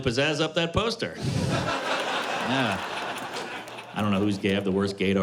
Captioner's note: laughter